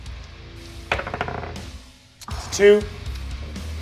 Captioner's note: die rolls